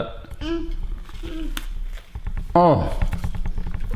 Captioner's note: crunching